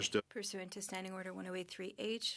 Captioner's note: speaking French